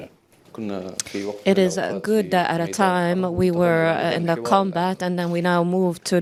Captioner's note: through translator